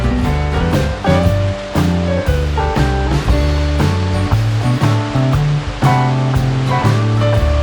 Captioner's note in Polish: Aplauz